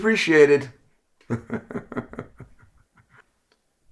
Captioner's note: chuckle